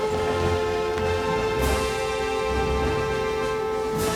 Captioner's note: alarm Continues